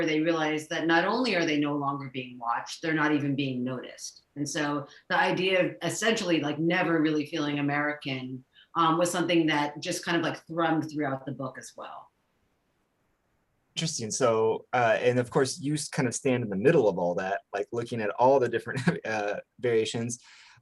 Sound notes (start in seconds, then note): 18.6 chuckles